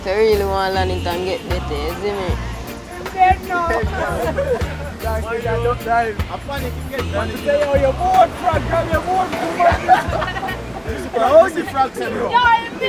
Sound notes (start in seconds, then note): 3.1 people laughing and chattering; 9.0 waves crashing